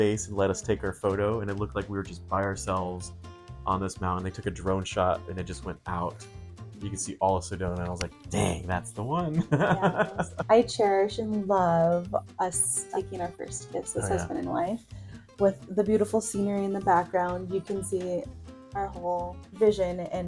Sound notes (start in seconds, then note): 9.3 laughs